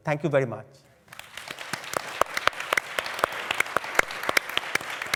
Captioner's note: applause